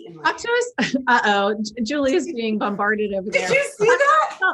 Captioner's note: laughing